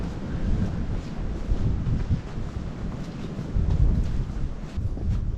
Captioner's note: wind